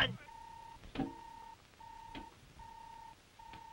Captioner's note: robot beeping